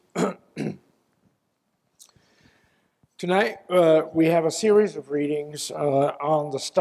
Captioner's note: cough